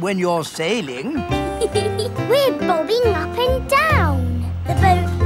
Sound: giggles

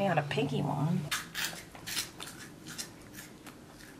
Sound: chewing

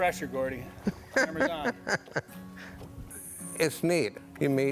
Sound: chuckles

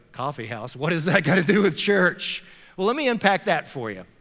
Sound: laughing

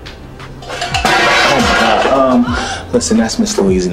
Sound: pans crashing

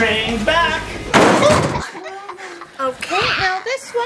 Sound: crashing sounds

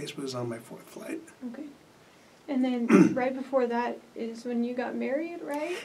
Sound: clears throat

